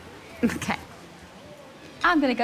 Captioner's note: laughs